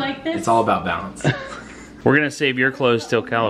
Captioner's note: laughs